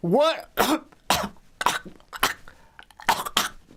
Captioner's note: coughs